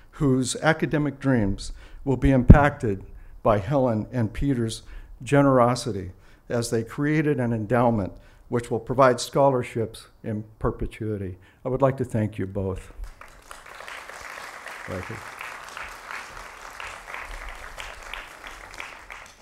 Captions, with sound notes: Whose academic dreams will be impacted by Helen and Peter's generosity. As they created an endowment which will provide scholarships in perpetuity. I would like to thank you both [Applause] Thank you. [Applause]